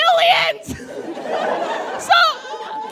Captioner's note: audience laughs